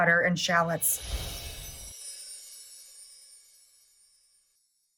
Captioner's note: air whooshes